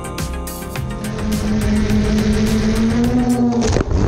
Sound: drone buzzing

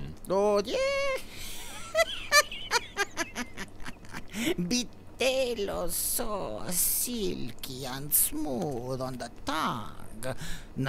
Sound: laughs

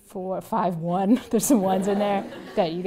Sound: laugh

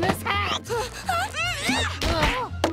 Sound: groaning

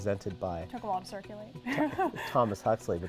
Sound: laughs

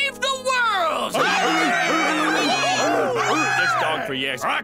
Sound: everyone cheers in agreement

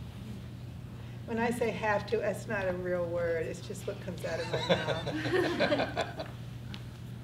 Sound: class laughs

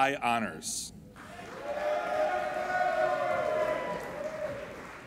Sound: applauding and cheering

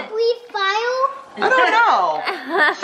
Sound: laughs

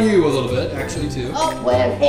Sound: voiceover

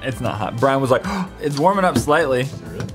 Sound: gasp

